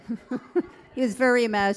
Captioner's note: all laughing